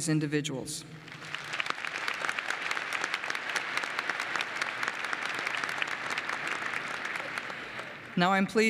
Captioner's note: applause